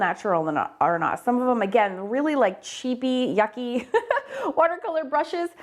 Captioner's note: chuckles